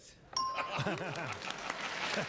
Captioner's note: bell rings